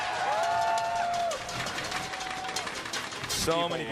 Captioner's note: cheering